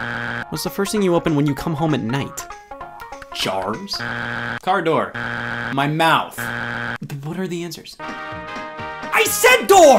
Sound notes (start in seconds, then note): 5.1 buzzer beeps; 8.0 lively music